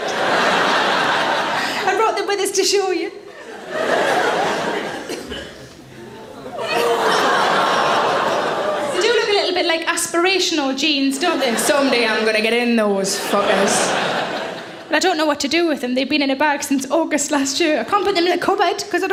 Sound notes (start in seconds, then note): 0.0 audience laughing; 4.2 audience laughing; 6.4 audience aawing; 13.1 audience laughing